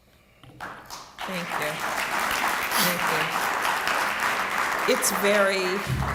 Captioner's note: applause